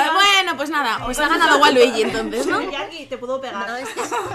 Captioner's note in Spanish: risas